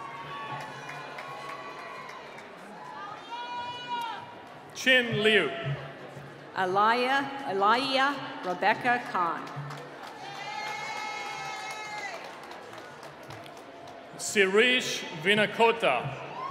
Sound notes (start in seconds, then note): 0.0 cheering; 9.9 cheering